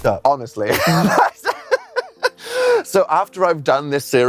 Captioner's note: laughs